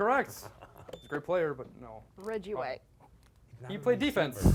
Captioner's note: beep